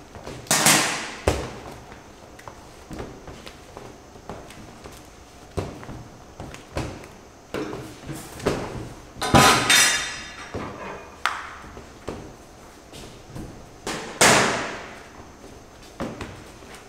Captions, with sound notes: oh no he dropped it *thud CLANG* *bang*